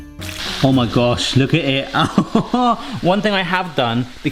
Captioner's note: laughs